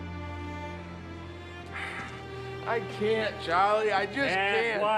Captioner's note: sighs